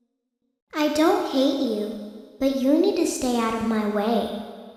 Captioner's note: little Girl's Voice